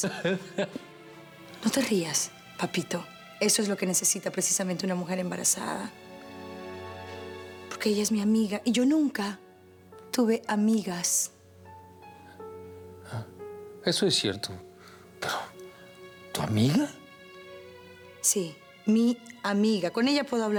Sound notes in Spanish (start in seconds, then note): 0.0 Él se ríe